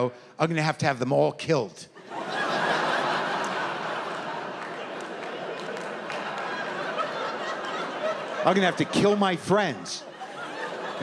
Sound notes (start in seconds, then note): 1.9 laughter